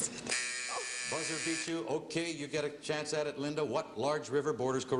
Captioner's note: buzzer